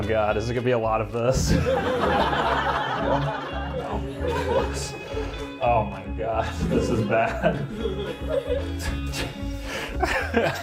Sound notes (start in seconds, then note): 5.4 audience laughter; 9.8 laughs